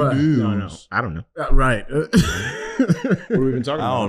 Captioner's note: laughing